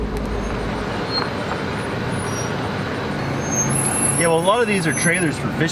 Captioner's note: brakes squeaking